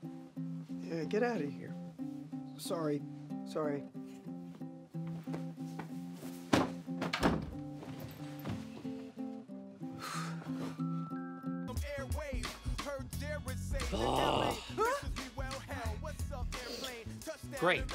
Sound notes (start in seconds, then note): 4.5 soft music; 7.0 thudding; 10.0 frustrated exhaling; 11.0 hip hop music; 13.9 grunts; 15.7 hip hop music